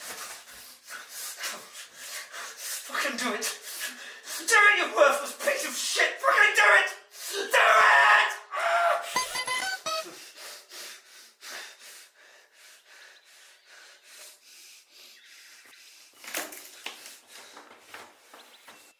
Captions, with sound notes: Come on, fucking do it. Do it, you worthless piece of shit, fricking do it! Do it! (Phil yells) (bell chimes)